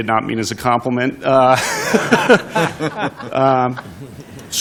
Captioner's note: laughter